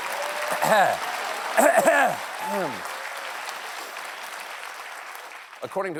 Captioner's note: clears throat